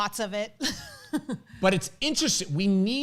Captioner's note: laughs